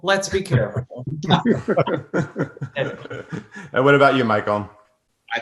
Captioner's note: everyone laughs